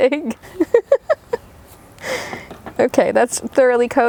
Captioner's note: laughing